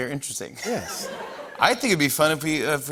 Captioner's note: laughter